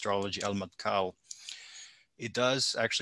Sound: speaking in Arabic

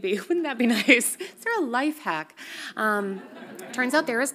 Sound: audience laughs softly

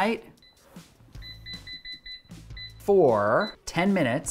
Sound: electronic beeping

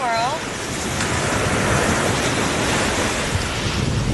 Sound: waves crashing

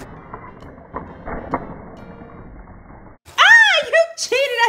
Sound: voiceover; slow motion sounds

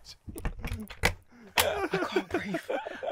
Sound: door opening; laughing

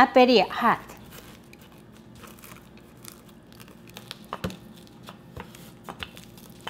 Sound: crunching

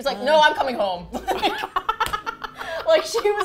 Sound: laughs

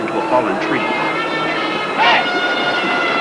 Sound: men shouting

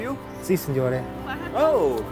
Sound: speaks Italian

